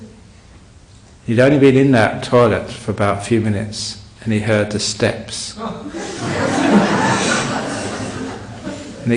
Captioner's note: laughter